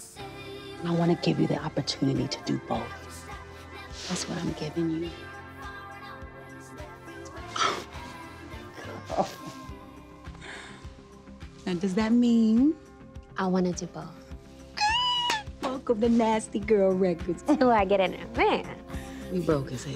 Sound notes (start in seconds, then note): 8.8 laughs; 14.8 squeals